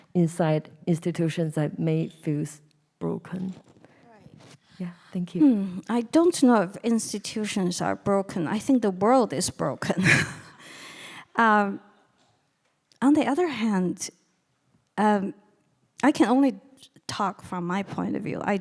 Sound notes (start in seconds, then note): 11.1 laughing